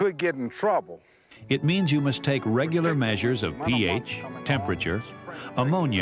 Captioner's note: voiceover